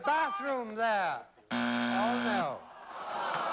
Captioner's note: buzzer